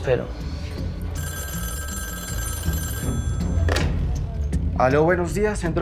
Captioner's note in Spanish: Suena el teléfono